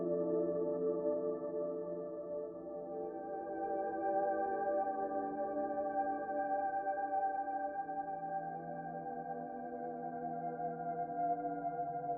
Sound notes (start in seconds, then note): none